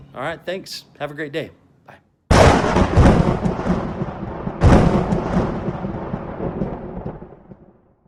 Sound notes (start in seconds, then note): 2.3 lightning crackling